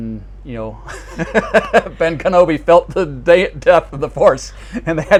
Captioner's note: laughs